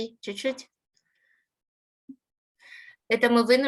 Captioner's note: speaking Ukrainian